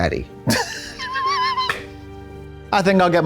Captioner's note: Katya titters